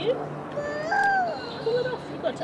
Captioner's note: whimpers